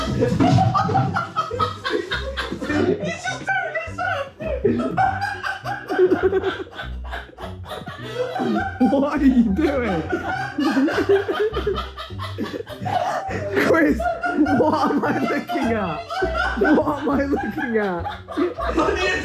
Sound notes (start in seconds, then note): 0.1 laughing; 5.3 all laughing; 10.7 laughing; 15.9 laughing